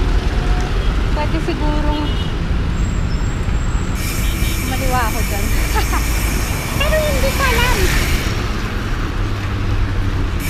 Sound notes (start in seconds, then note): 5.6 laughs